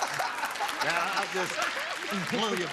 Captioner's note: clapping; laughter